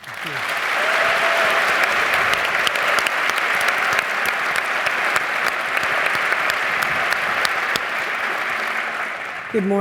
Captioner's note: applause